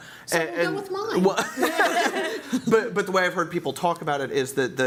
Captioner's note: laughter